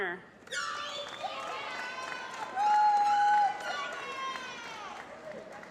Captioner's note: applause